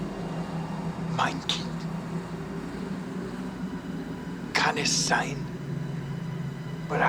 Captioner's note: speaking german